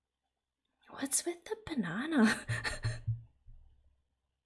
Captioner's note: laughs